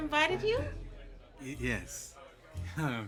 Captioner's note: chuckles